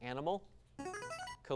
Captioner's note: device sound